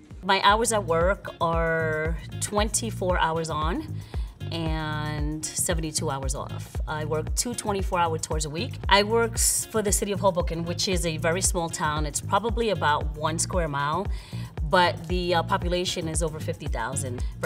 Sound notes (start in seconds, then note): none